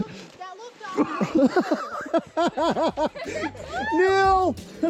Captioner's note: laughs